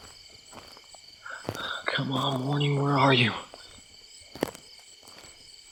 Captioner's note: sighs